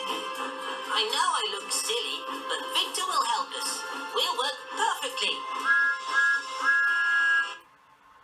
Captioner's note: thomas tooting